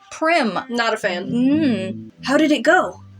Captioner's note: disapproving Hum